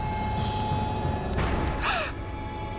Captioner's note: gasping